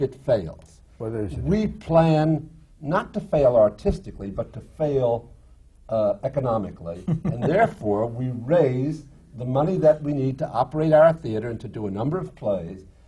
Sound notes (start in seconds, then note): 6.9 laughs